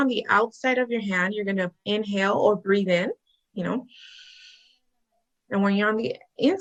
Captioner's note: inhales